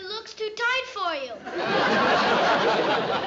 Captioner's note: laughter